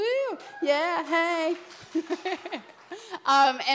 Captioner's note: applause; laughter